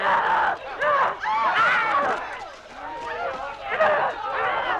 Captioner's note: Hundra roaring